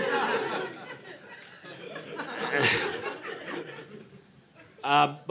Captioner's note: audience laughing